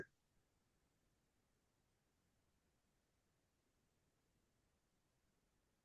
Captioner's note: silence